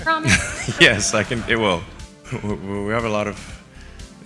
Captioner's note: laughs